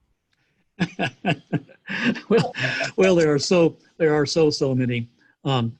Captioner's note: laughs